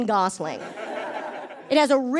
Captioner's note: audience laughs